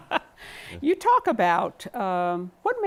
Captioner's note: laughter